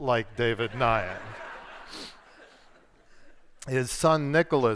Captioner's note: audience laughs